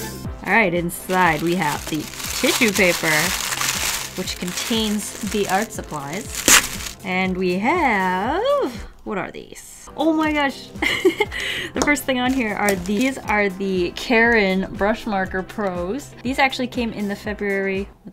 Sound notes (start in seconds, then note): 2.9 crchcrch; 6.0 crssshhh